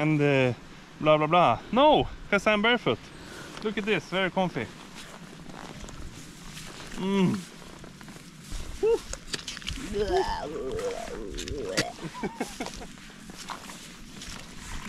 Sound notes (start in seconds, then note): 10.8 laughing